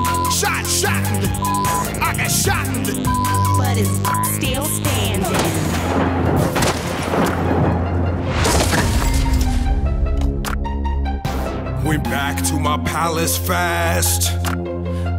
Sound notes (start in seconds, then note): 0.0 beep; 5.3 gun shots firing